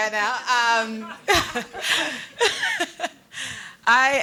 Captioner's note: audience laughing